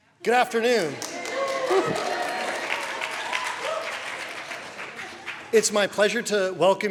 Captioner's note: applause